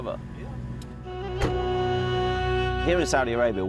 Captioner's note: car door thudding